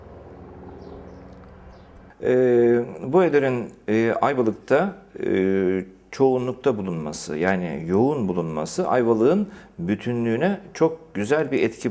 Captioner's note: speaking in Turkish